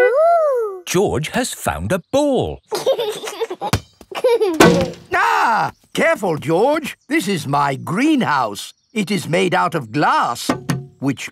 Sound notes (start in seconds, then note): 2.7 chuckling; 4.6 thuds; 4.9 screams; 10.5 knocks